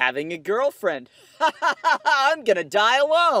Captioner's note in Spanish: Risas tristes